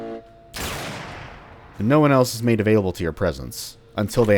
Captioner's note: bam